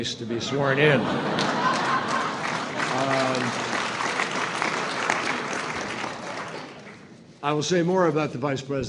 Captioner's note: laughter and applause